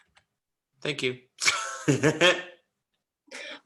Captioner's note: laughs